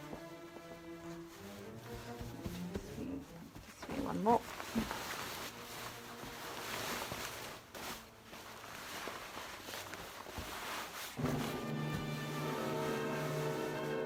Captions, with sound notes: I'm gonna do this pleat. There needs to be one more. (fabric rustling)